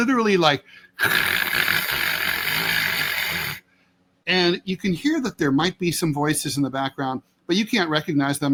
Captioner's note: static noise